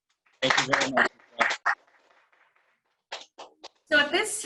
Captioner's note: clapping